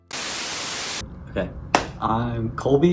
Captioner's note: static buzzes